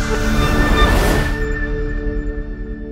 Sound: swoosh

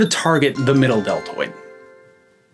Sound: success chime

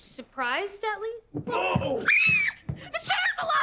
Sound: screaming

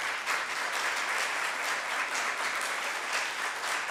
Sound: group applauds

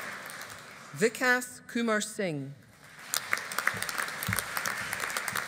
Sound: audience applauding

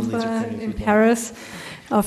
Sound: foreign language spoken

